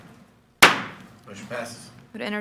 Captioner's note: gavel taps